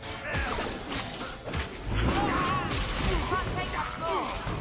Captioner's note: characters grunt